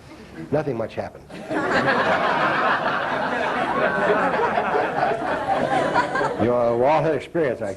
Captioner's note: laughter